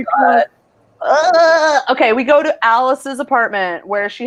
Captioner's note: babbles